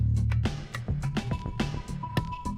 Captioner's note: none